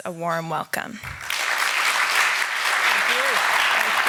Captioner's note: applause